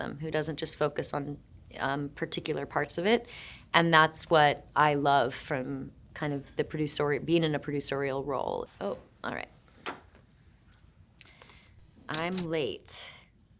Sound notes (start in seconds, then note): 9.8 card rustling